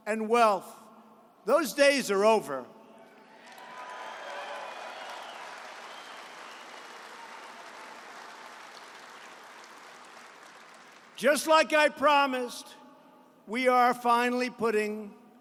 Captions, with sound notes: and wealth--those days are over. (applause) Just like I promised, we are finally putting,